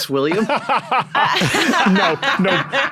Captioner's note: group laughing